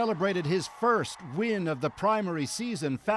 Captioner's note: cheers and Applause